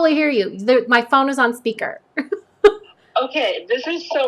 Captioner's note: laughs